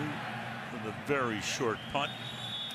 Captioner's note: pa announcement